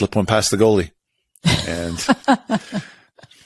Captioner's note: laughs